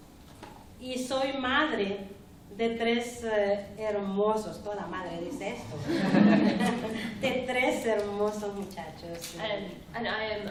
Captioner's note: speaking spanish